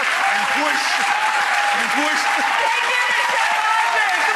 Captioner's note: audience applause; laughs